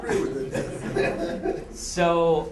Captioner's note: laughter